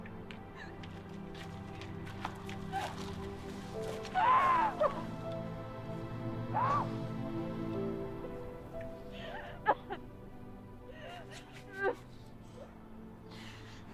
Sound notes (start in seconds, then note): 1.4 Sarah sobs